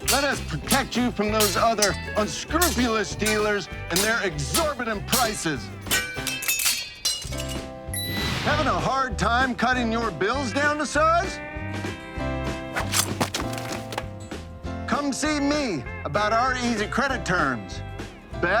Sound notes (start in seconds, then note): 6.8 metal clinking; 12.7 sword slaying